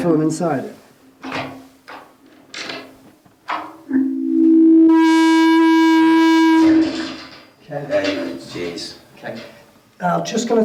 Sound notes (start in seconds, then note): 1.2 door creaking; 3.9 microphone sounding